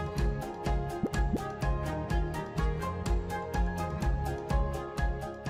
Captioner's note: graphics popping